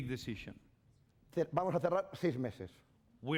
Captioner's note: speaking spanish